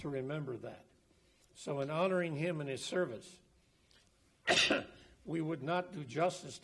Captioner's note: coughs